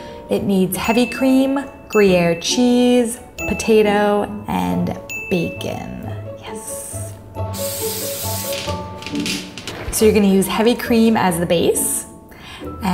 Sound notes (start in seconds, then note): 1.2 bell dinging